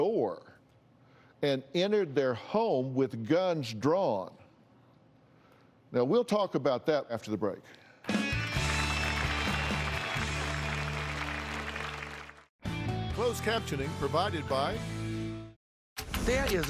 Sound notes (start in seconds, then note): 11.0 applause